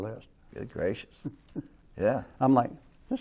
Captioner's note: chuckles